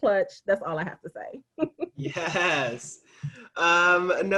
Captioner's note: laughing